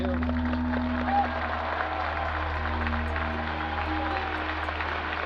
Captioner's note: audience cheers and applauds